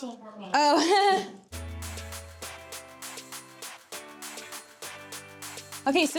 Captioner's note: chuckles